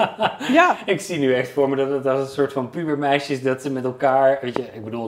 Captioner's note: laughs